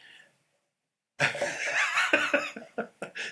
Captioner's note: laughter